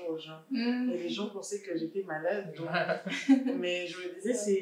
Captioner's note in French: rires